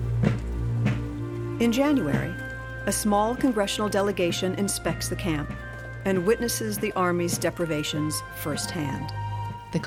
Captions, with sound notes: and witnesses the army's deprivations firsthand. [Wind howling, fire crackling]